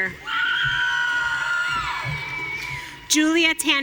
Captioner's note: audience cheering